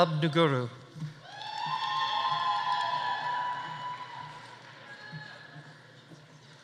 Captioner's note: audience cheering; audience applauding